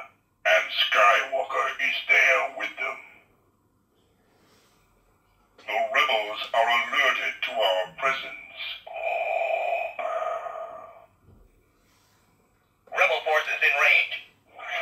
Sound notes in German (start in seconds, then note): 8.4 Darth Vader breathing noise